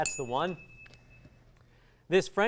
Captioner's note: ding